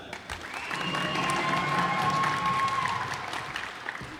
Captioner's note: cheers and applause